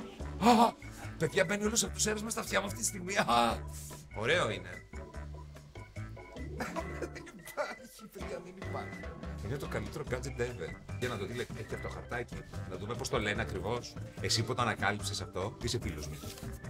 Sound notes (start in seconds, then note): 6.4 laughs